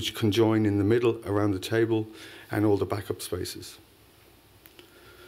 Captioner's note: none